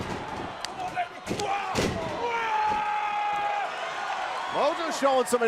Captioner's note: crowd cheering